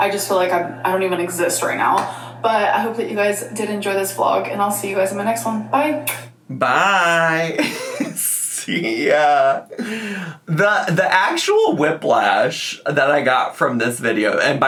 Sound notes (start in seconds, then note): 7.3 laughs